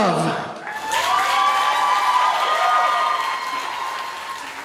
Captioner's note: audience cheers and applauds